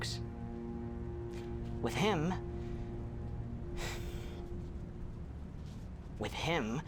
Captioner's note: exhales; inhales